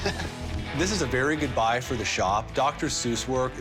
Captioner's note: laughs